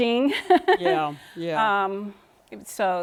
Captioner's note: laughter